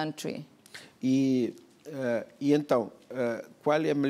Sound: speaking portuguese

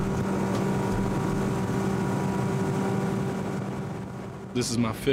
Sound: motor Boat sounds

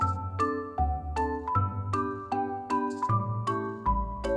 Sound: none

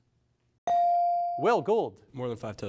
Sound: device dings

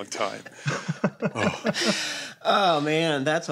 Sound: laughter; sighs

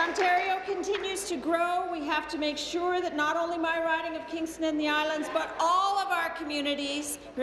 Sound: applause

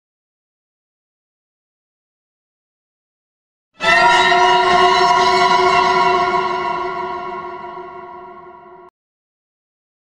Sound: vintage ghost scare

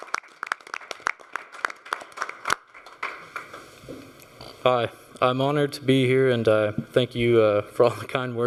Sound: applause

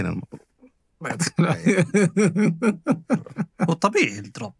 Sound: laughter

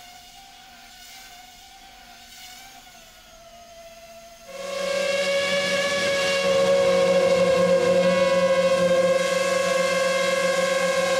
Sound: throughout video: sounds of flying aircraft during camera footage

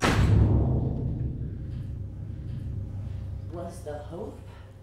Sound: door slams

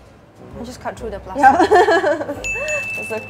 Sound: laughs

